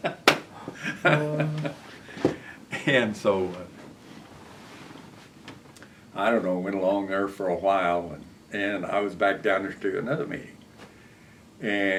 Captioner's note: laughter